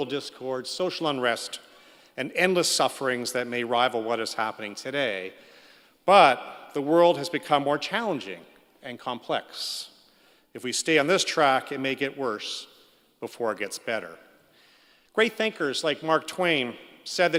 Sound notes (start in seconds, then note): none